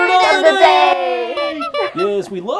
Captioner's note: bicycle horn honking